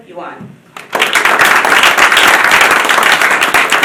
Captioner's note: applause